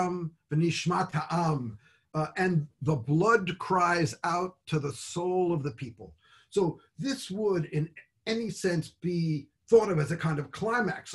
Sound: speaks Hebrew

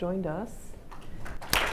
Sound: applause

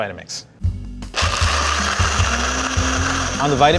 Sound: blender whirring

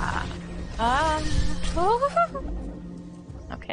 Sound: singsongy

